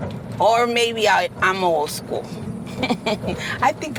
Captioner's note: laughs